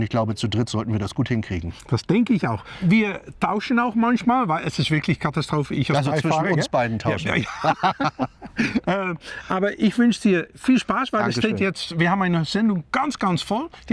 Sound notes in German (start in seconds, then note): 7.0 gelächter